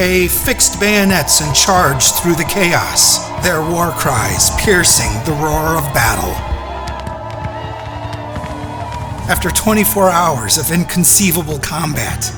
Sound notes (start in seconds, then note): 8.3 war cries